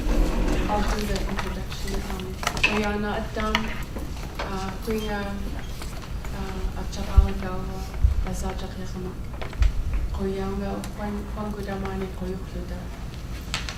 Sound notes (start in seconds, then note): 2.3 speaking in Yup'ik